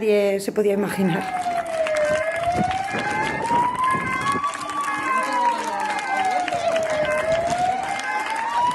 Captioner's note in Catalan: aplaudiments